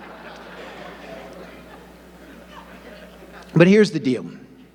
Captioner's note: audience laughing